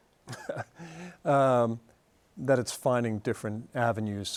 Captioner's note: chuckles